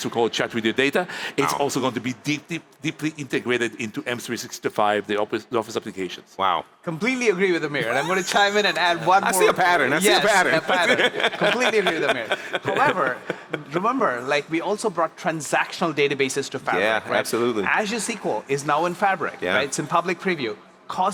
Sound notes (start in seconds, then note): 7.8 laughs